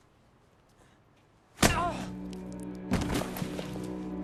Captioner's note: punching